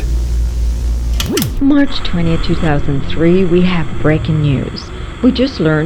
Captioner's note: lamp switches on, radio turns on